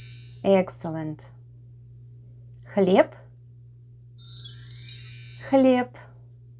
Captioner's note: chimes sound